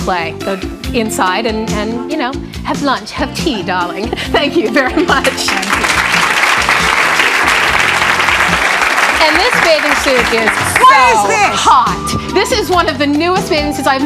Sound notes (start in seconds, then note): 5.0 audience clapping